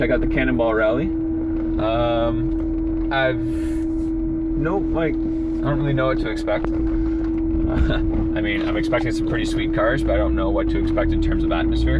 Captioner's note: chuckles